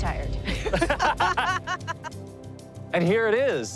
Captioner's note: laughing